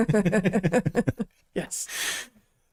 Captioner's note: both Laughing